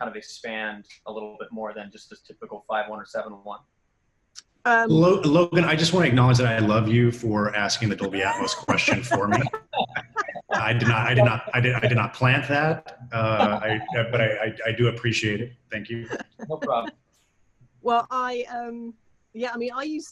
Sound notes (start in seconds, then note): 5.1 chuckling